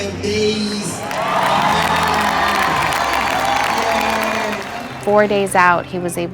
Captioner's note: crowd cheers